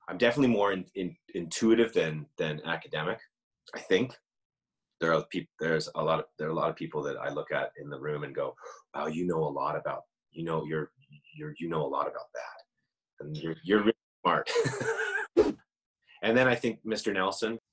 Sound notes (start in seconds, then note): 14.5 laughs; 15.3 whoosh